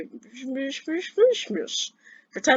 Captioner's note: weird badonkin' gibberish